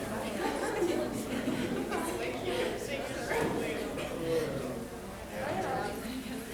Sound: audience members chattering

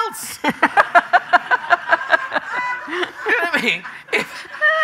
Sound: laughing; audience laughing

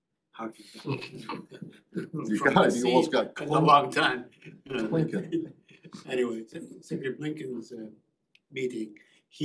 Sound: laughter

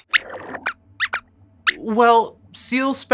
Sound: squeaks squeaks

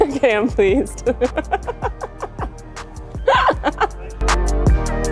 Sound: laughing

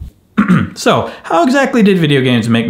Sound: clears throat

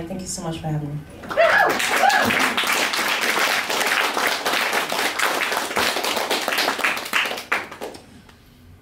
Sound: applause

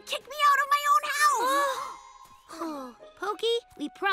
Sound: both gasp; sighs

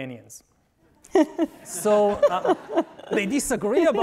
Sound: all laughing

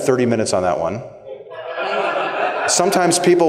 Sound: laughter

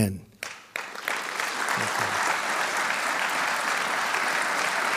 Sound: audience applauding

